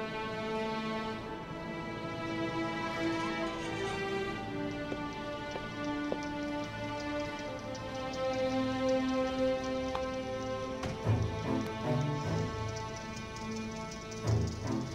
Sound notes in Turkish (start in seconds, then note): 0.0 Müzik - Gerilim; 2.7 Kapı açılma sesi